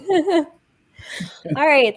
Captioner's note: chuckles